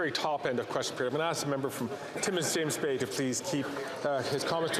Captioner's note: some Applause